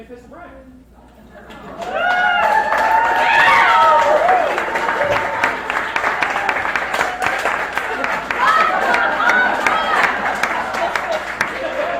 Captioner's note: crowd cheers